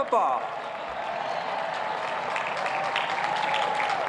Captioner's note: cheers and applause